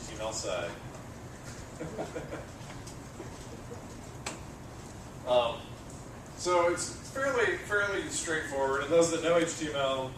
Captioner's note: laugh